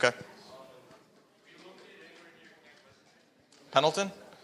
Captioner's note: speaking faintly